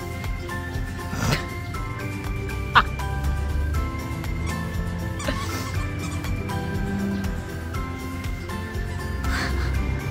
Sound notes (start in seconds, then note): 4.3 laughs